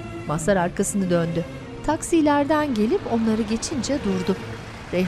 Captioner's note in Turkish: Araba motor sesi